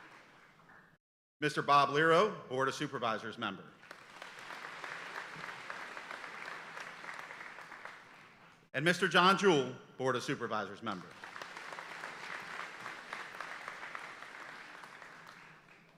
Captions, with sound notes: Mr. Bob Liero, Board of Supervisors Member. (audience applauding) And Mr. John Jewell, Board of Supervisors Member. (audience applauding)